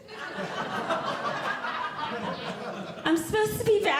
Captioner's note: audience Laughing